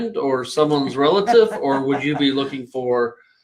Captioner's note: laughing